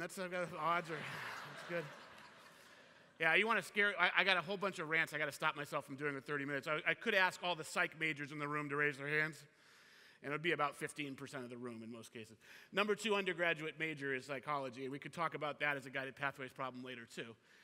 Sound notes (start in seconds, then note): 2.2 laughter